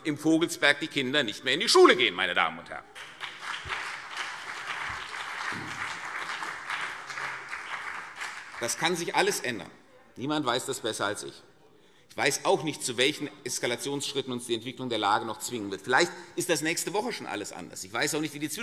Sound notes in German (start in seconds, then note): 2.9 Beifall CDU und BÜNDNIS 90/DIE GRÜNEN